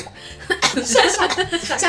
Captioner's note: cough cough cough